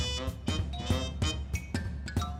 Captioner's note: bell dings